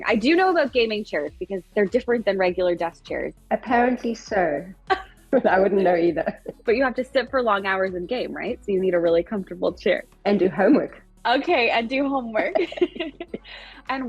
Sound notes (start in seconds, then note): 5.4 chuckles; 12.5 chuckles